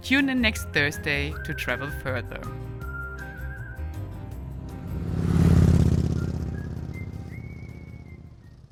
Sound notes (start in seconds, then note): 3.0 upbeat music; 4.2 motorcycle engine revving